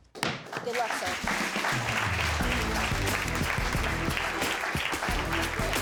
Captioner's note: applause